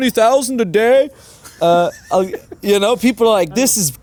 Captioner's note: laughing